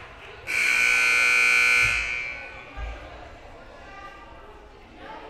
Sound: loud buzzer blaring

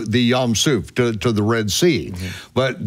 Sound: speaks in foreign language

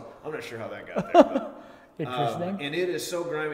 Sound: laughing

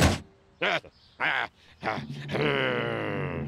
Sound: breathing heavily

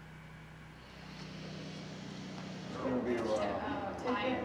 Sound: engine humming

